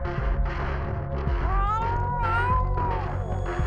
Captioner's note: cat purrs